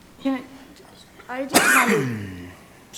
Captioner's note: coughs